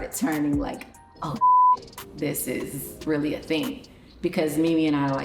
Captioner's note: beep